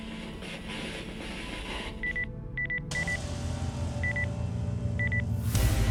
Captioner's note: beeping